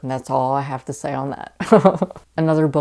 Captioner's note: laughing